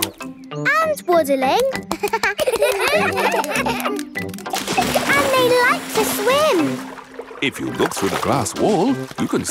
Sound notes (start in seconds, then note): 1.8 children laugh